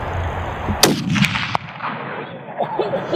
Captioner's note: gun shot